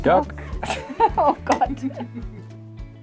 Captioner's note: laughter